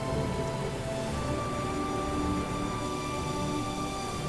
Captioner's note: thunder rolling; rain falling; dramatic music